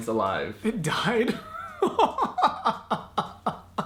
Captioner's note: laughs